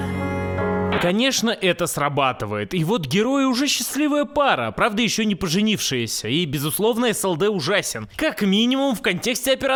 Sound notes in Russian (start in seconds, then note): 0.9 звук помех